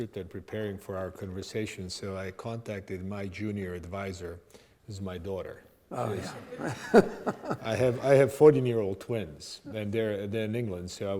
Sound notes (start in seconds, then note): 5.9 audience laughing